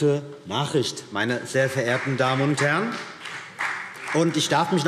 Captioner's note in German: Vereinzelter Beifall CDU und BÜNDNIS 90/DIE GRÜNEN